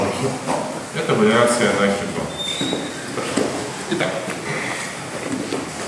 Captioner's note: speaking in a foreign language